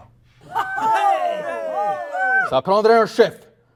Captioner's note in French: Approbation de la foule